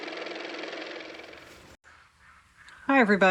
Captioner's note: car motor